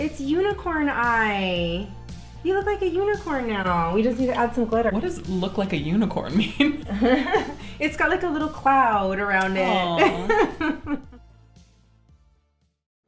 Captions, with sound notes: - It's unicorn eye, you look like a unicorn now. We just need to add some glitter. - What does look like a unicorn mean? - It's got like a little cloud around it. (laughing)